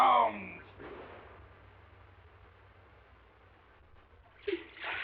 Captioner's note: gunfire blasting; water splashing